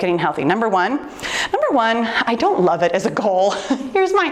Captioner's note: laughs